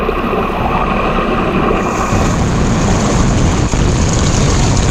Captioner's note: water rushing